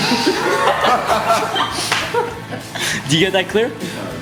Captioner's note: laughing